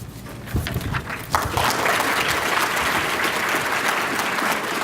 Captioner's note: applause